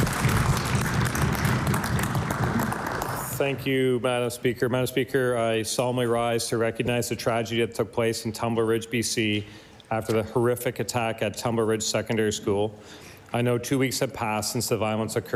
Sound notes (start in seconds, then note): 0.0 applause